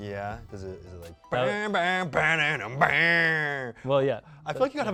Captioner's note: mimics electric guitar